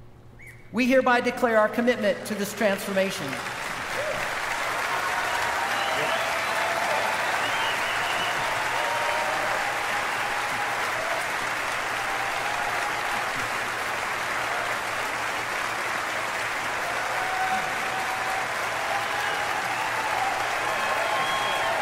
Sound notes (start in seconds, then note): 4.0 applause